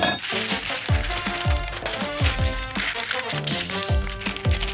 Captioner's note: wax paper crinkling